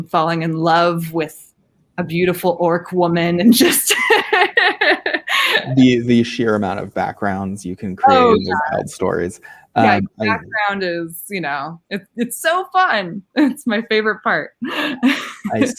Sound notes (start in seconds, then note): 3.4 laughing